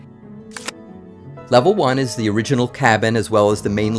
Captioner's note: camera shutter clicks